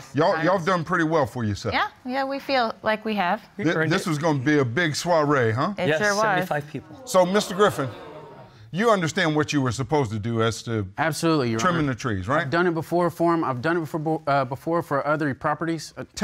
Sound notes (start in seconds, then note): 6.8 audience exclaim